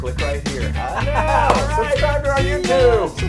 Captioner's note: laugh